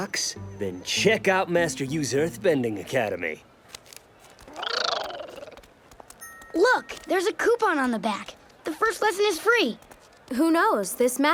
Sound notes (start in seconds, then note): none